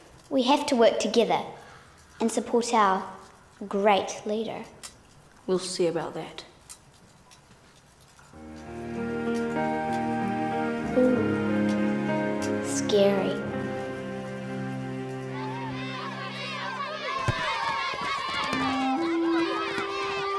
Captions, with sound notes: - We have to work together, and support out great leader. - We'll see about that. - Oo. Scary. (children shouting)